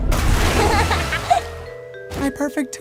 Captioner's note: giggling